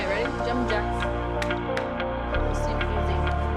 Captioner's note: clapping